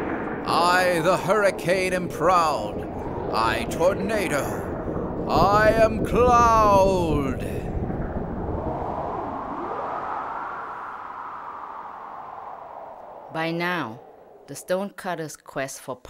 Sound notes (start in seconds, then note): 7.2 sound of wind storm blowing